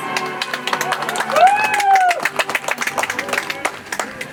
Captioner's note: audience applauds